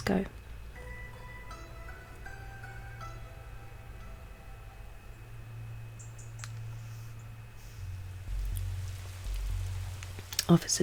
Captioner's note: rain falling